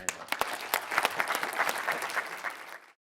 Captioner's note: audience applause